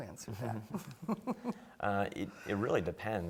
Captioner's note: laughing